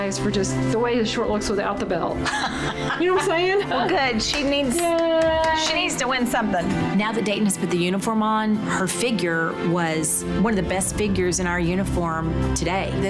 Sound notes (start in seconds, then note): 2.2 laughing